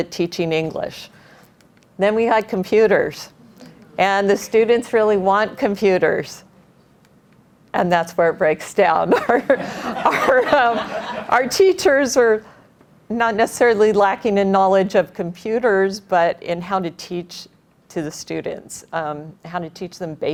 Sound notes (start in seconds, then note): 9.1 laughter